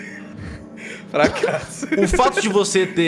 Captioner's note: laughing